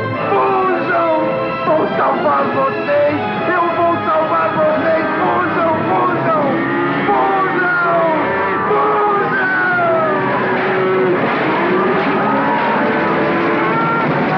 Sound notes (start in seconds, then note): 8.0 mooing